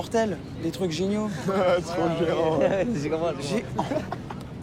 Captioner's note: laughing